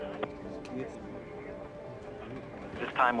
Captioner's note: murmurs